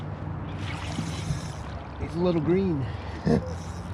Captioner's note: fish splashing